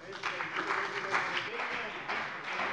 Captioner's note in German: Beifall CDU und vereinzelt BÜNDNIS 90/DIE GRÜNEN